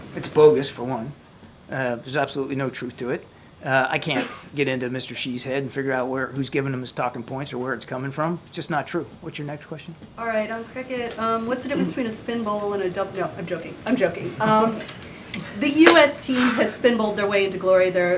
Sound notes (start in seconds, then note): 14.4 laughter